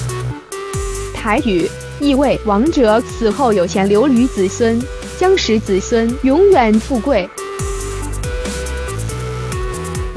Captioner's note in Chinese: 台語